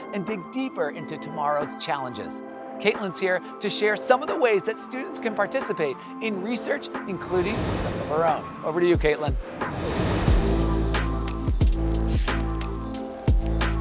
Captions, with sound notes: and dig deeper into tomorrow's challenges. Caitlynn's here to share some of the ways that students can participate in research, including some of her own. (transition whooshing) Over to you, Caitlynn. (transition whooshing) (gentle upbeat music)